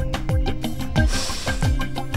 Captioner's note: Shreya inhales